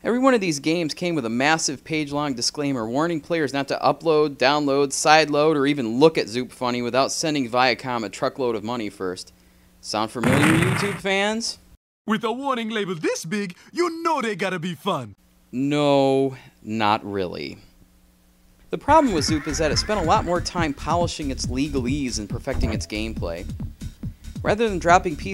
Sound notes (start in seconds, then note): 10.2 crash